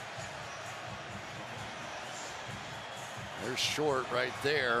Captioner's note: cheers